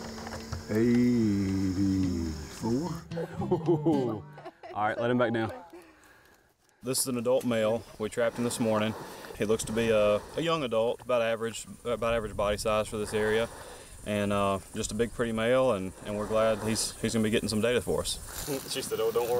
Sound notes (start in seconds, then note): 3.4 person exclaiming in excitement